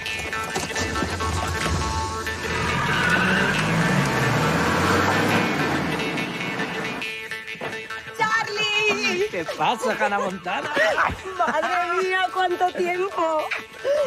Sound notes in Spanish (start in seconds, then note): 3.0 Sonido arranque coche